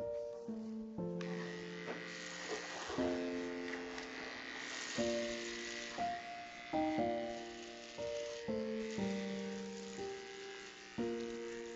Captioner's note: razor Buzzing